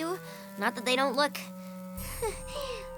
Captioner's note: sighs